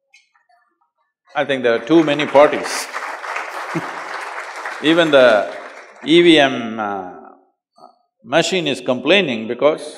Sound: applause; laughs; laughter

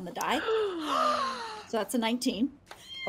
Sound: DM and players gasp

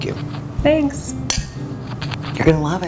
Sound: glasses clinking

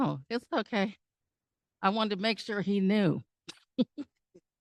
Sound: chuckle

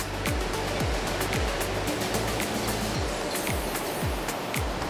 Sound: waves susurrate

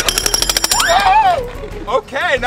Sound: jackhammer noises

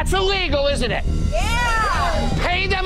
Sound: crowd agrees

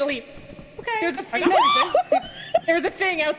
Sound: screams

